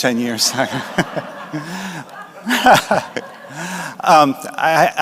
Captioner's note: laughter